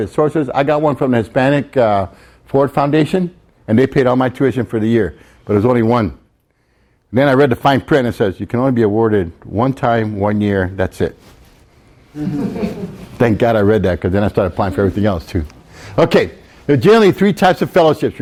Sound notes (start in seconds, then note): 12.1 students laugh